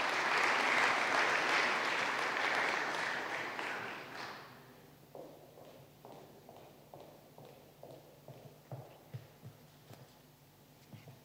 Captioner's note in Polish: oklaski